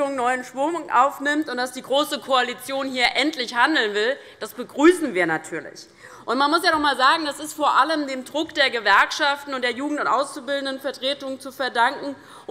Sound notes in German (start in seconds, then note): none